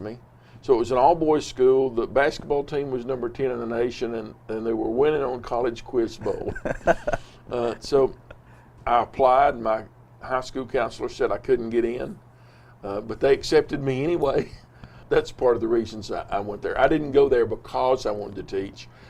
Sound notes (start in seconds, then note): 6.2 laughs